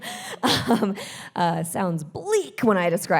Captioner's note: chuckles